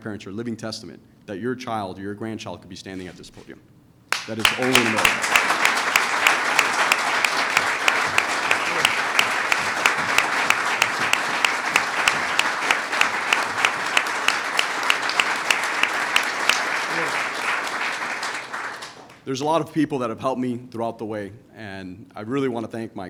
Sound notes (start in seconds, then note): 5.8 applause